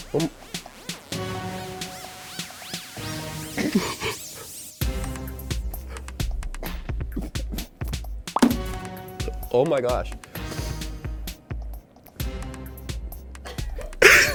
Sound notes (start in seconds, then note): 0.0 ominous music; 0.0 techno music; 3.5 muffled laughing; 8.3 digital popping; 8.4 candy thunking; 10.0 ominous music; 13.4 laughing